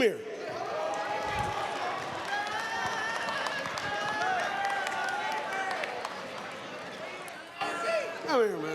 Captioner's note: cheers, applause